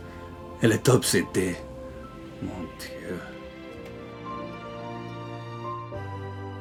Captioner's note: Jean-Jacques speaking in French